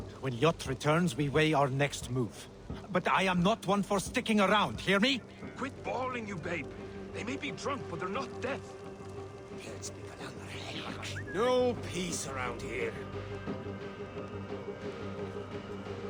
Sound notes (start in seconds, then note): 10.3 whistle